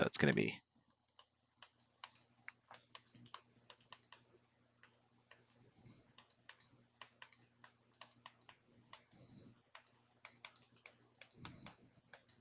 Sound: typing

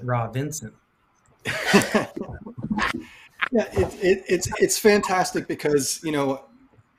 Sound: laughs

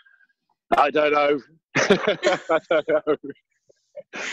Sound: laughter

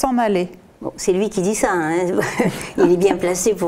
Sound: laughs

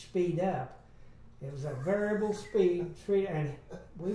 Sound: laughs

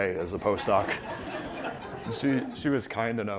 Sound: laughter

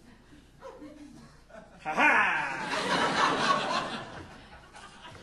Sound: audience laughing

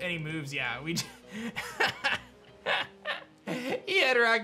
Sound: chuckles

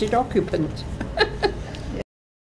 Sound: chuckles

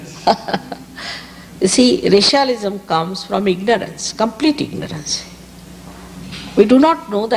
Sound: shri mataji laughs

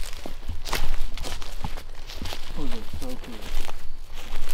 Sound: footsteps

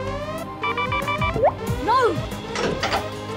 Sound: beeping

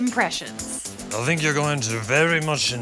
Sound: impersonating Johnny Depp

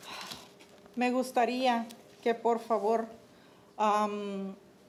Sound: speaking Spanish

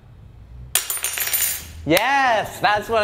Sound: spoon clangs

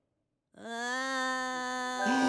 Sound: goofy ahh cup noise

